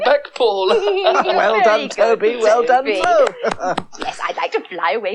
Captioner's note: giggles; claps